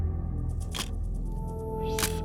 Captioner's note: camera shutter click